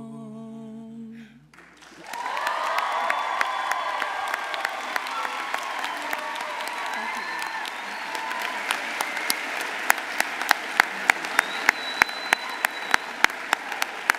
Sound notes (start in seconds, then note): 1.8 audience applauding; 1.8 audience cheering